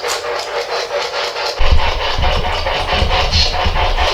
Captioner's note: static